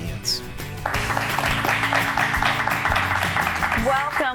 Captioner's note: applauding